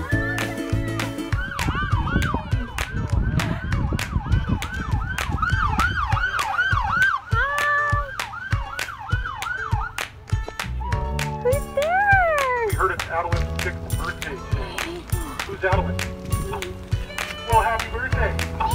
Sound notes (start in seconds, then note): 1.2 police siren wailing